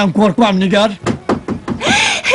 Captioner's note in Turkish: kapi vurulur